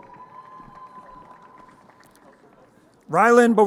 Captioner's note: crowd cheering